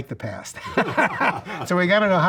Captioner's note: laughs